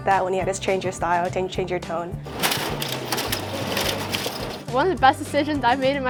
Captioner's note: printer printing newspapers